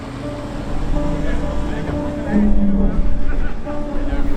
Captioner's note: boat engine, men laughing and talking